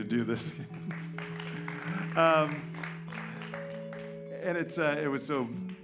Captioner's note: applause